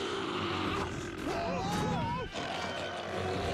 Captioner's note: growling